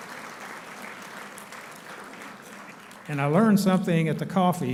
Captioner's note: applauding